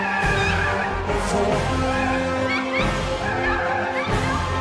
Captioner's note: handler trilling